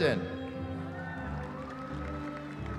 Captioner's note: cheering